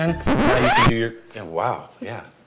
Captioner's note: record scratching sound